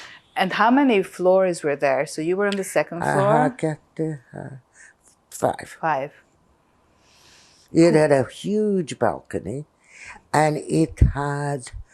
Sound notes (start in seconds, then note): 3.9 counting